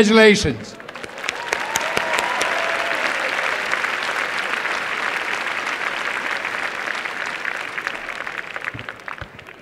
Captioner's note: applause and cheering